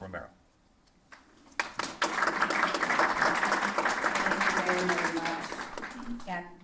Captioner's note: applause